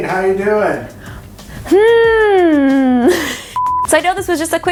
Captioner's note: laughs